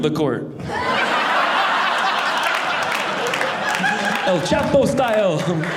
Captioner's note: audience laughing